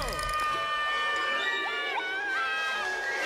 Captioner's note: Data yelling